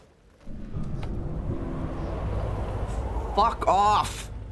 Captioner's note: more wooshing